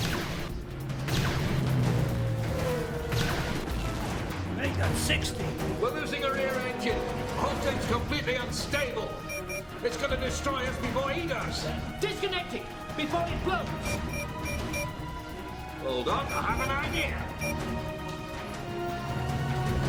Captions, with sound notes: (laser blasts) Make that 60. - We're losing our rear engine. The whole thing's completely unstable. It's gonna destroy us before he does. - Disconnect it before it blows. (console beeps) - Well done, I have an idea.